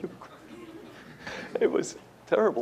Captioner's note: laughter